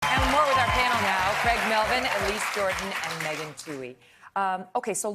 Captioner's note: applause